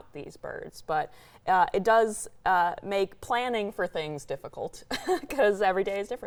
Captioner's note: laughs